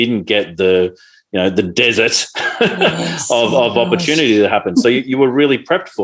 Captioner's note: chuckles loudly